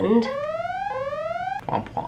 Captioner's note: siren